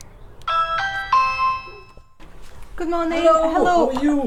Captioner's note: doorbell ringing